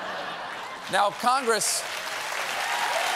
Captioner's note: laughter; applause